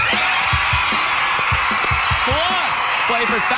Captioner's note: cheering